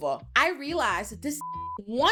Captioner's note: beep